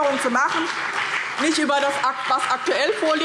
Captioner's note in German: Beifall BÜNDNIS 90/DIE GRÜNEN und vereinzelt CDU